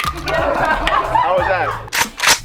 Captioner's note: people laugh